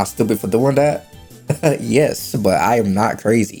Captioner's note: laughs